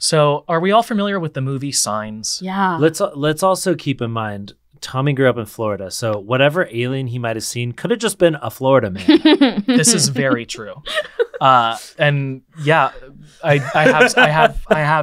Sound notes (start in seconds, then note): 8.9 laughing